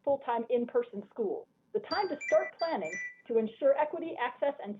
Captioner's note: chime